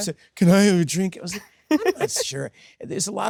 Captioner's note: Sydney laughs